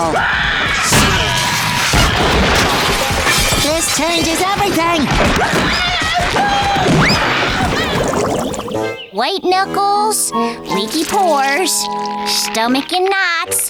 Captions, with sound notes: [screaming] [banging, stuff breaking] This changes everything. [screaming] White knuckles, leaky pores, stomach in knots.